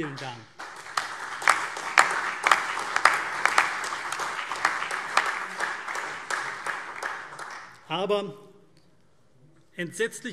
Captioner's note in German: Beifall CDU, BÜNDNIS 90/DIE GRÜNEN, AfD und Freie Demokraten